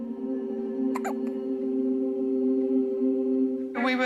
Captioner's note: coughs